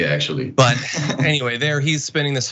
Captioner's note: laugh